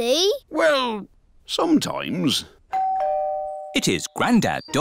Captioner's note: doorbell dings